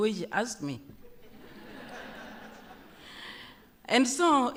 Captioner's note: laughter